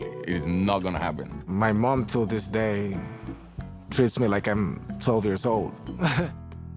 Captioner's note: laughs